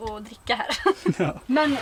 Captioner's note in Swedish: Skrattar